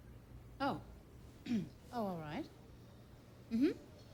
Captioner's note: clears throat